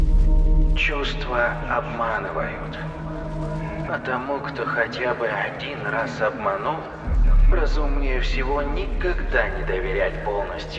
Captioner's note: intercom